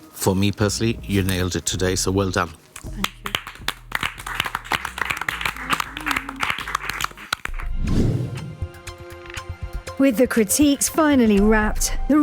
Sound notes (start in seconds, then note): 2.8 group applauds